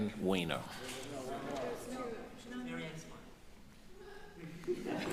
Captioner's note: indistinct chatters